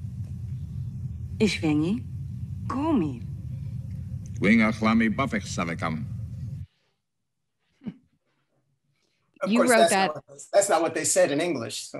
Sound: Speaking in Vulcan

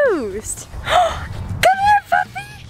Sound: gasps

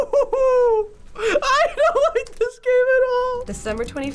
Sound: falsetto

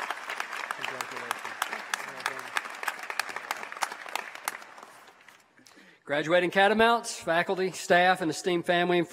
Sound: applause

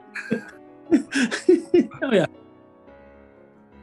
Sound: giggling

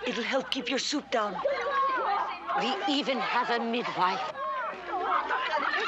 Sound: yelling

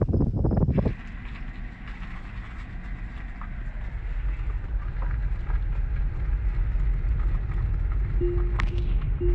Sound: wind blowing; car driving; Tesla safety noises

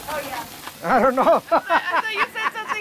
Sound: laughter

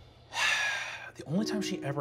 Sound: sighing

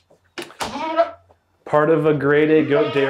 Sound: door clicks

